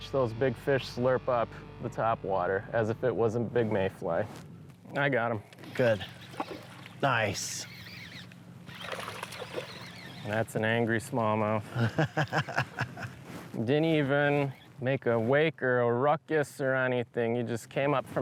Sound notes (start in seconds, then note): 11.6 laughs